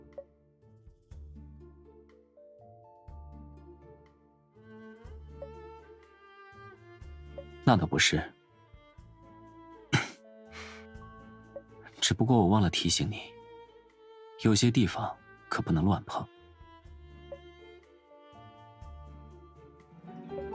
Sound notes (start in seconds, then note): 9.9 coughs